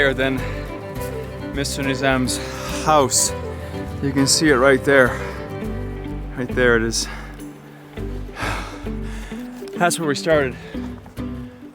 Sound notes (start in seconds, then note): 7.0 catching breath